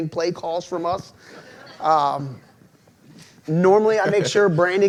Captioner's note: audience laughs